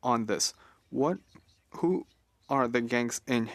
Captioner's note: speaking French